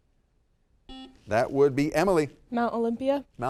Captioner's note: buzzer dings